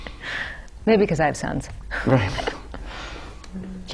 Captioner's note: laughter